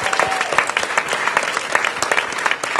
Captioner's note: applause